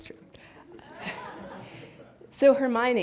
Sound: audience laughs

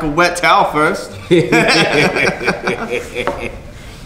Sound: laughing

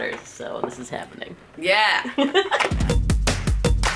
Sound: laughs

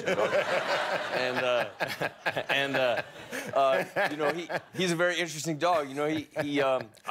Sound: laughter

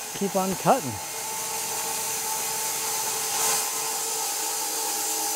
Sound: saw whirring

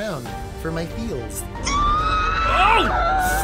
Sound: screams

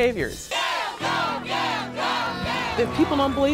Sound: crowd

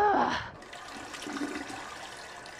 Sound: bathroom water flowing

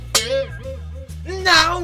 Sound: silly sound

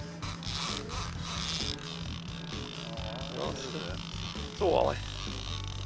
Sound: reel clicking

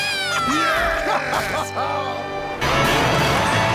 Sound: laughing

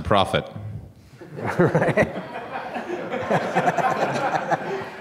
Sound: laughter

